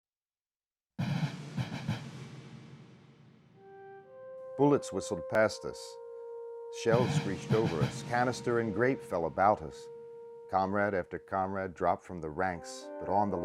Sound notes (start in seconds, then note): 1.0 drums; 4.8 voiceover